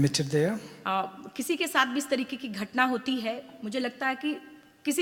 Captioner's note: speaks foreign language